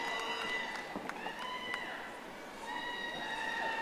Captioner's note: audience applauding